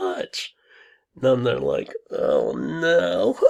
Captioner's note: laughs